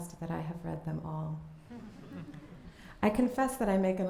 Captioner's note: laughter